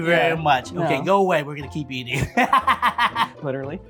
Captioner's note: laughs